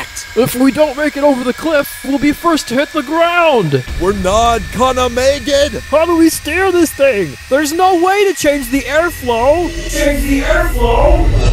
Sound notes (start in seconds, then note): 3.8 thick accent; 9.7 echoing